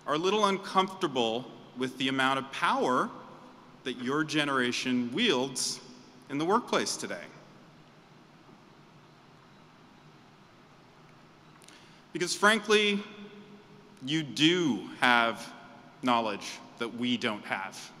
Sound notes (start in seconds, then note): none